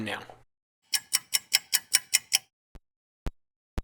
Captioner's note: sound of a ticking clock